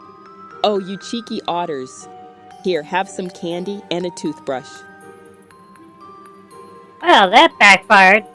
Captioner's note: laughing